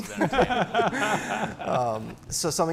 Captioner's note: laughter